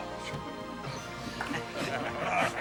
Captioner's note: chuckles